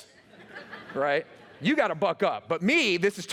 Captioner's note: laughter